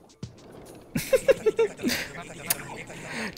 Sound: giggles

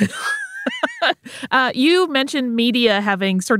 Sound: laughs

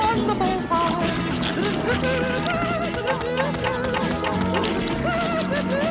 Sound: humming

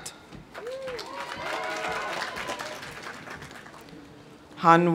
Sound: audience cheering; audience applauding

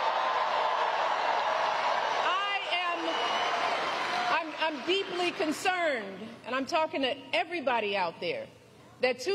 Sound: applause

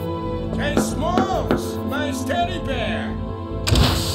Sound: none

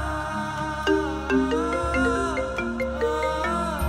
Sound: phone ringing

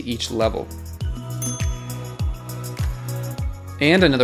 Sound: bell dings

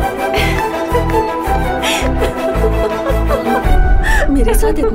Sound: laughing

